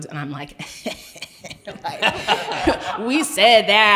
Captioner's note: chuckles